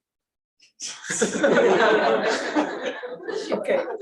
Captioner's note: laughter